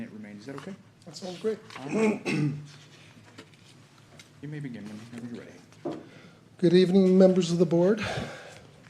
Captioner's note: clears throat